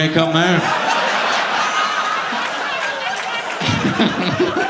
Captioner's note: audience laughing